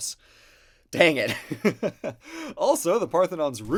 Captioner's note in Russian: смешок